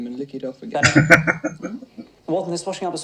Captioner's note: laughing